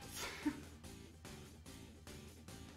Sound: laughs

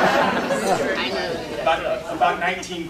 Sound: laughter

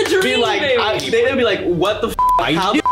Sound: beeps

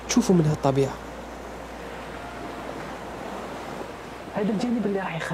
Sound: waves sound

